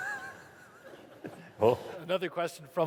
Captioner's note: laughter